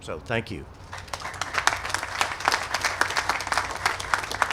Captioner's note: applause